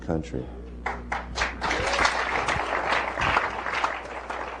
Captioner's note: applause